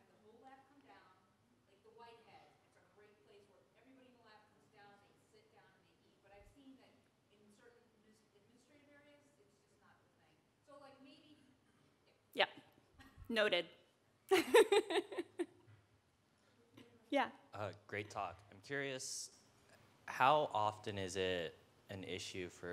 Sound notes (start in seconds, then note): 14.3 laughs